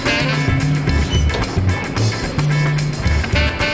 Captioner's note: beeping